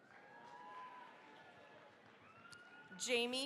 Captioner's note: cheering, applause